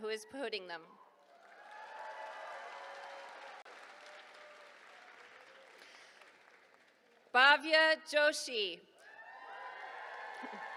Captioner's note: applause